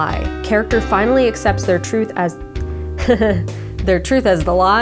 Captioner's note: laughing